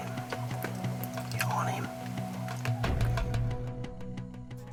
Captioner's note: whispering